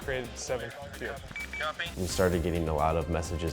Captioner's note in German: Voiceover